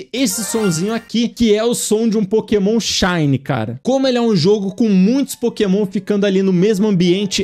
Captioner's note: shiny sound plays